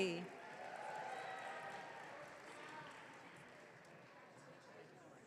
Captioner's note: audience cheering